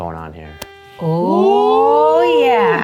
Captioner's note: gasping